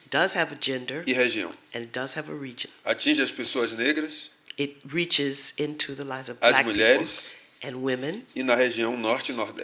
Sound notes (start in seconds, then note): 1.2 speaking portuguese; 3.8 speaking portuguese; 9.0 speaking portuguese